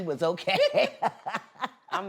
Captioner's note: laughter